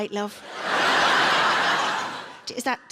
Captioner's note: audience laughing